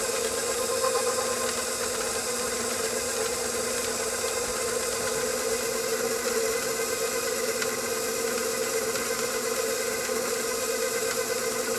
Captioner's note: grinder whirring